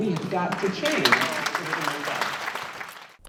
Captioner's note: clapping